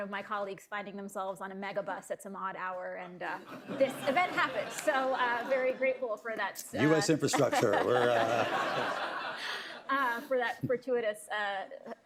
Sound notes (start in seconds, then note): 3.2 laughter; 7.2 laughter; 7.3 laughs